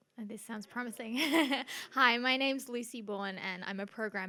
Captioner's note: laughs